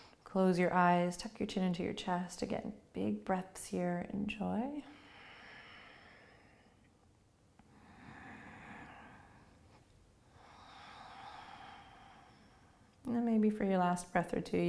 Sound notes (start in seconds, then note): 4.8 breathing